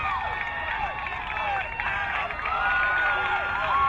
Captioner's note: crowd cheering